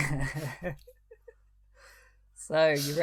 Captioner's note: both laugh